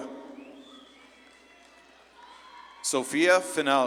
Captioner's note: audience claps and cheers